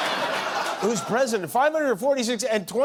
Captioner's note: laughter